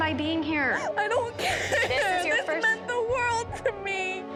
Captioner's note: sobs